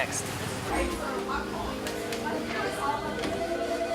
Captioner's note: phone rings